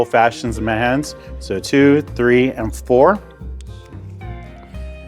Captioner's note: liquid sloshes